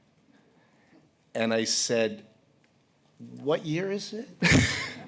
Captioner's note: chuckles